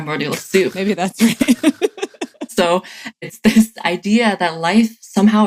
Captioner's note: laughs